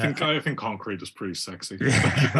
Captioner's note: laugh